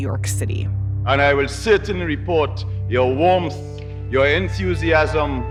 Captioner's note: soundbite of archived recording